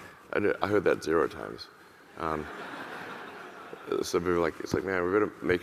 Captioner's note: audience laughing